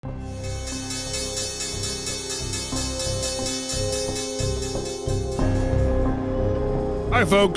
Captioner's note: bell sound